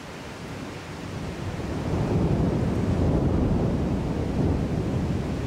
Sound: thunder

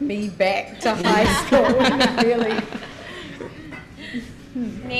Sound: panel laughs

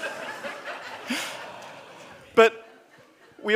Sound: audience laughs

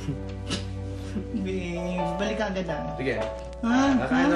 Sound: chuckles; ding

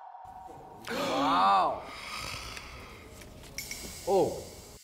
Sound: gasped

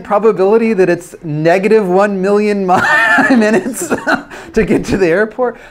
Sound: laughs

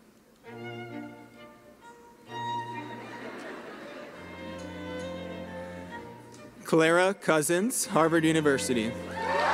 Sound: cheering and applause

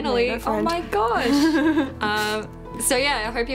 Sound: Ingrid laughs

